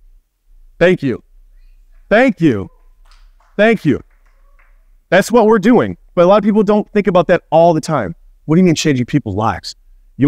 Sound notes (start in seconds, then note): 2.6 audience clapping